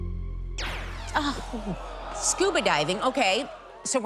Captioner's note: zap